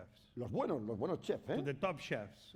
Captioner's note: speaking spanish